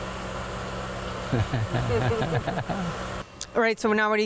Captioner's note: laughing